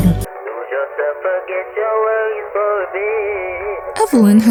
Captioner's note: through headphones